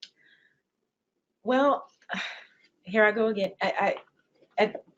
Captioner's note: sighs